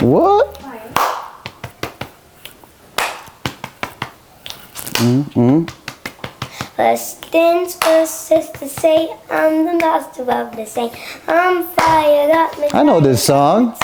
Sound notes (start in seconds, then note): 0.9 clapping; 1.0 tapping chest